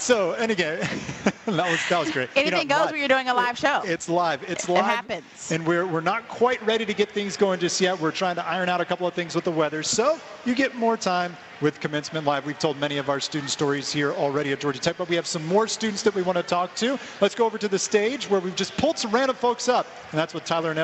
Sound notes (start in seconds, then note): 4.7 laughter